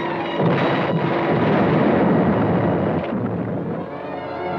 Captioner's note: cannons blasting